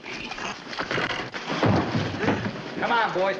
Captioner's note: thudding